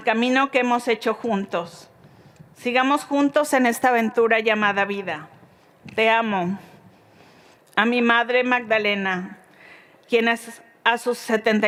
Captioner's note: speaking Spanish